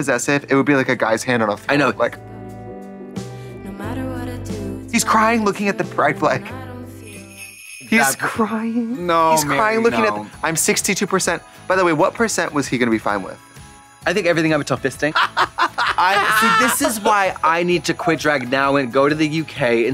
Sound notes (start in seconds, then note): 7.0 sleigh bells jingling; 15.2 Trixie cackling